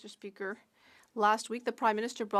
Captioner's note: speaking French